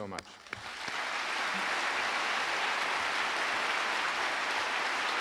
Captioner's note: guy and audience applauding